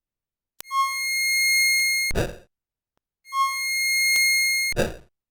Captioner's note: phaser sounds